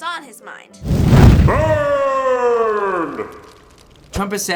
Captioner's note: flames rage